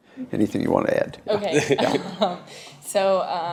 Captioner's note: laughs